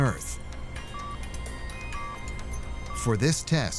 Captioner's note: machine continues beeping